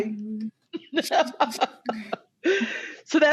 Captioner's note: emotional laughter